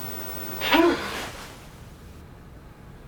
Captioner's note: gasps